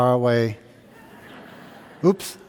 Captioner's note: audience laughing